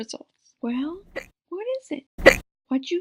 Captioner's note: hic!